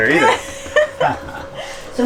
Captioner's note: both laugh